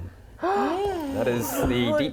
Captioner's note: gasp